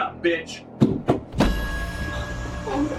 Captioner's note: door knocking; suspenseful music